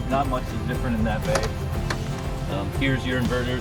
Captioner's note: door clicks